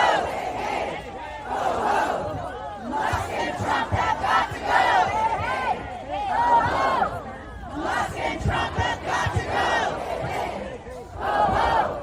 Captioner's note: chanting